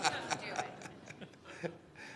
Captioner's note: laughter